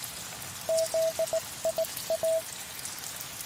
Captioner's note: international morse code